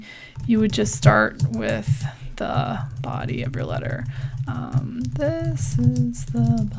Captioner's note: typing